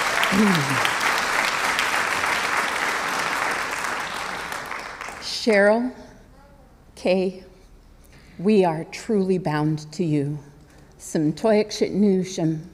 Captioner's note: applause